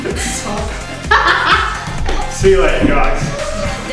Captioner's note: laughing